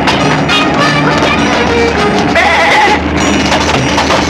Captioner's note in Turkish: Maç tribünleri ortam gürültüsü